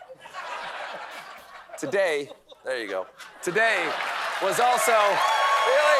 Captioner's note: cheering